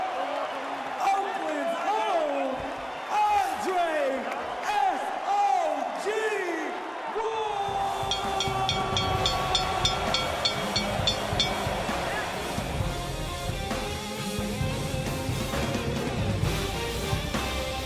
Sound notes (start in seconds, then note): 8.0 bell dinging; 12.5 rock music